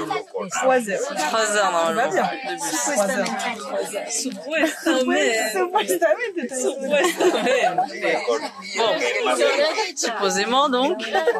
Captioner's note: laughs